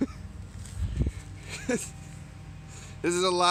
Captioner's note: laughter